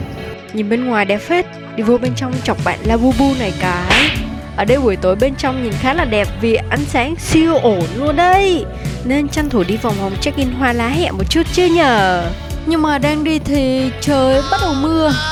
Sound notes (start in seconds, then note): none